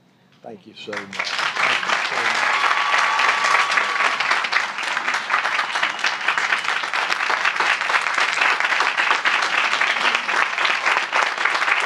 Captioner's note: applause